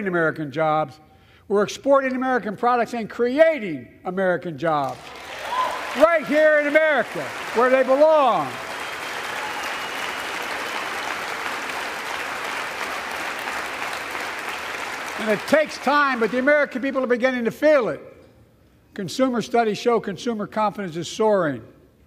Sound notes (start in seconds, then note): 9.1 applause